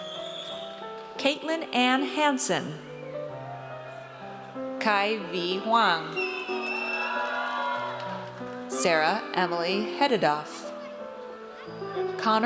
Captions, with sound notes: Caitlin Ann Hanson. Ky V. Hoang. (audience cheers) Sarah Emilie Hudadoff.